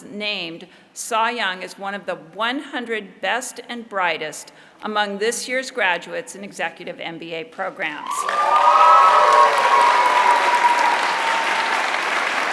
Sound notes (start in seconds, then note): 8.0 applause